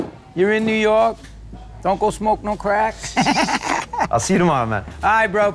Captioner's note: laughs